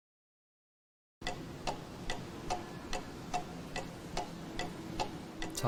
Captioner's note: clock Ticking